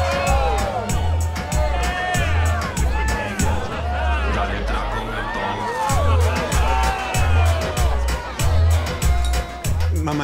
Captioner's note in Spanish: Gritos y exclamaciones